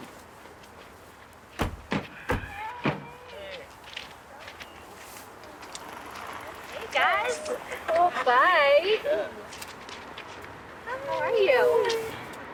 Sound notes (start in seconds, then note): 1.6 car doors shut